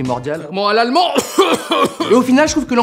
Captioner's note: cough